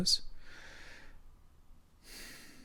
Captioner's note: exhales; inhales